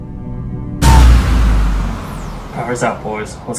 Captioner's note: powers down